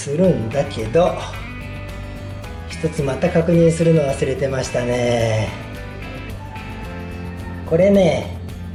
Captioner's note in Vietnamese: cười